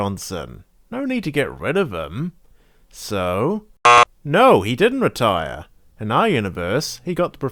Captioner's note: buzzer sound